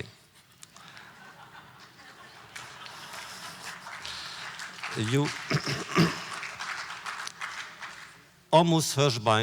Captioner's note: audience applause